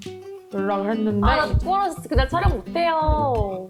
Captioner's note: heartbeat sound